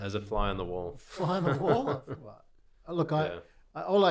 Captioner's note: laughing